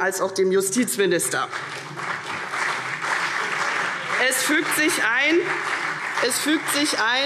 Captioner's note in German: Beifall CDU und BÜNDNIS 90/DIE GRÜNEN